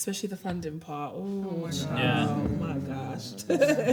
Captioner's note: everyone groans